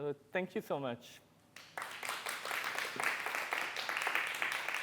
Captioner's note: applause